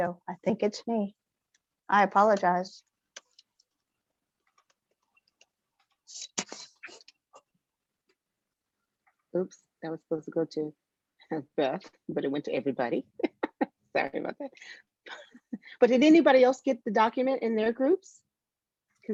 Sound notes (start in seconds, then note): 13.2 laughter